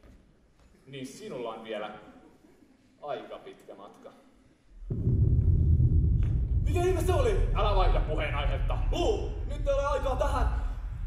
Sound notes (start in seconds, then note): 4.8 explosion